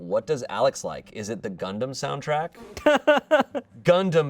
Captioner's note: laughs